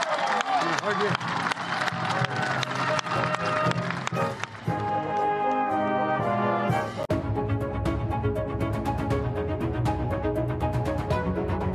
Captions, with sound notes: AND MEMBERS OF THE SENATE FOR THIS INCREDIBLE HONOR. THIS INCREDIBLE HONOR. [ CHEERS AND APPLAUSE ]